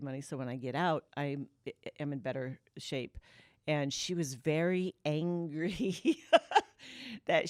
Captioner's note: laughter